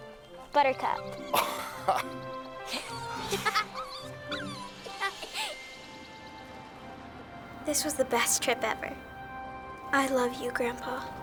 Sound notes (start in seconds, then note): 1.2 both laughing; 2.6 Buttercup whimpering